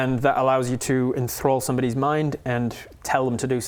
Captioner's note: none